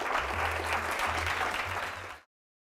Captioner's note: applause